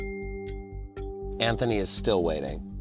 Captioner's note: phone pinging